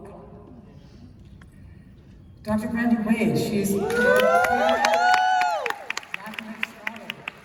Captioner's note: cheers and applause